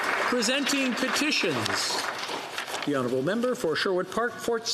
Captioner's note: some Applause